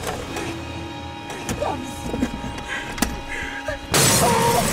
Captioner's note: gasping